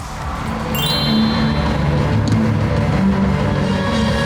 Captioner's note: The venue is filled with light stick lights and NEVERLAND's incredible cheers